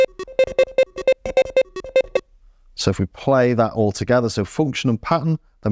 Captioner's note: beeping